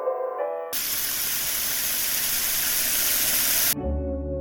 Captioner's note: TV Static